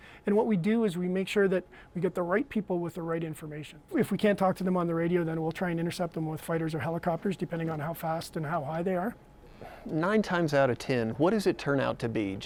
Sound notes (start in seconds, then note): none